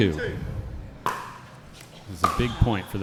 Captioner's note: ball being hit; shoes squeaking